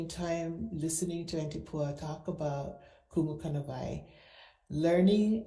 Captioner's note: speak foreign language